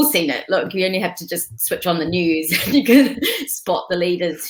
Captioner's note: laughing